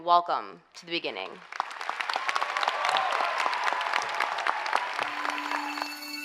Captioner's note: applause and cheering; slow bell-like music